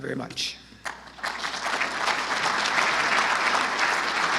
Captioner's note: audience applause